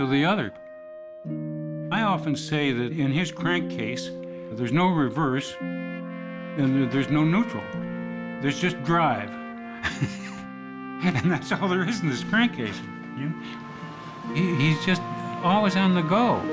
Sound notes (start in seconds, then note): 9.8 laughing